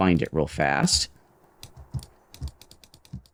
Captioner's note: fingers tapping